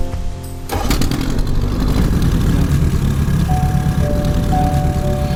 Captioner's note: engine revving; mellow music